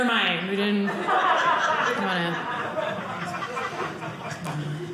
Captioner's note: audience laughing